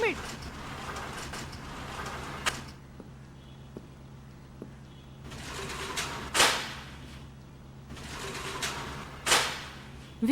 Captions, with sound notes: Hold on... Hold on. (Elevator door close)